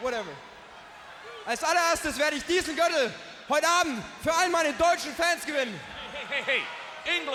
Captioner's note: speaking foreign language